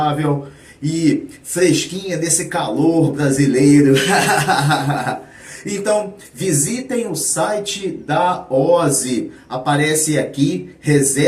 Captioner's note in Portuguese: risadas